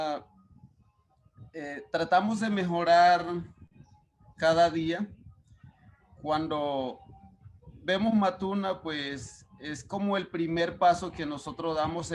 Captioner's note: speaking Spanish